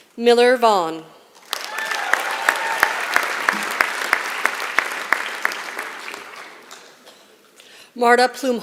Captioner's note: applause